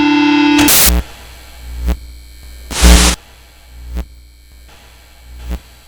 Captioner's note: speakers buzzing continues